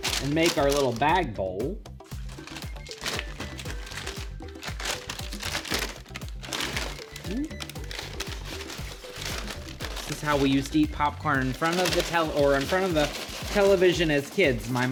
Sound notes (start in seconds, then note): 5.8 paper crinkling